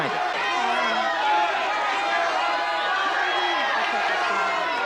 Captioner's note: shouting